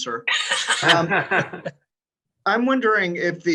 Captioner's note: group laughs